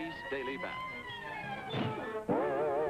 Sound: sirens

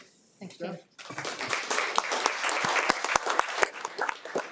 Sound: people clapping

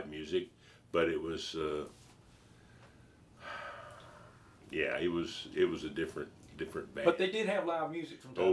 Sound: sighing

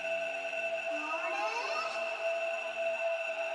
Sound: ghost noise of confusion

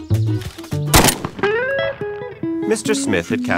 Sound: gunshot

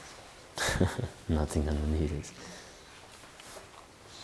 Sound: chuckles

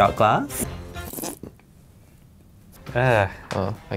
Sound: sipping

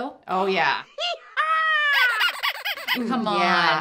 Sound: squeaky honky sound effect

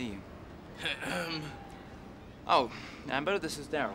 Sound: clears throat

